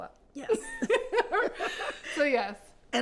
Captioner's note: laughing